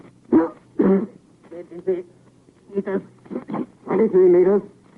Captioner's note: coughing; coughing